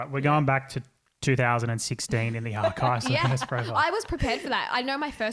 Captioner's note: voice muffled